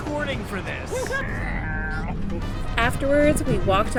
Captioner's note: plane noises